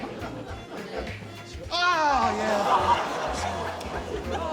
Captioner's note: audience exclaims